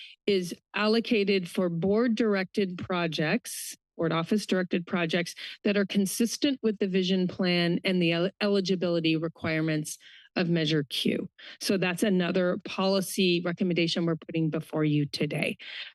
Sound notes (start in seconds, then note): none